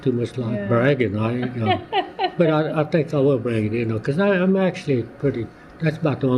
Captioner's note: laughter